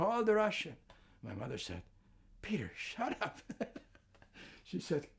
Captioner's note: laughing